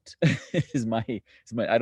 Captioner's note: laughs